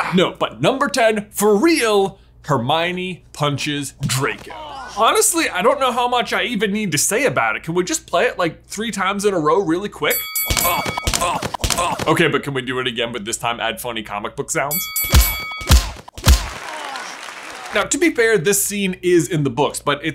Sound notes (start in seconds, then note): 10.1 boxing bell rings; 11.0 Draco groans; 14.7 boxing bell rings; 14.9 comic book punching sounds; 16.2 audience clapping